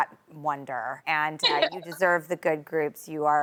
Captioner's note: chuckles